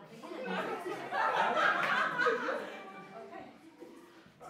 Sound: laughter

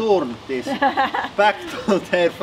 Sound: laughs

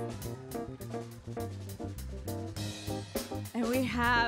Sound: audience cheering

